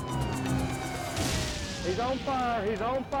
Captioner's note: flames whooshing